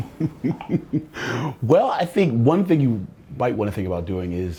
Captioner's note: laughs